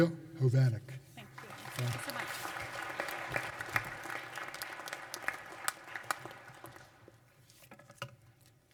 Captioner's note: applause